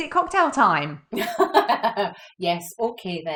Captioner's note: laughs